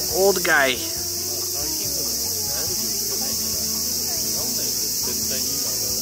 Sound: there are no words to describe how loud these cicadas are

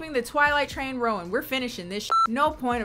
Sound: beep

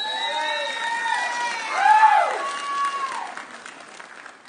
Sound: audience cheering

